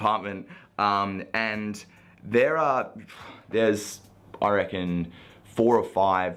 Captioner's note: exhaling